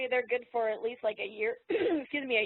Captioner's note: clears throat